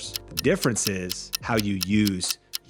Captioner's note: clock ticking